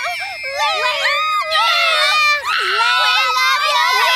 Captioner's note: girls screaming